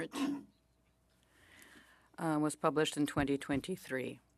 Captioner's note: speaking French